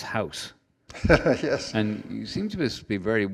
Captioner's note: laughs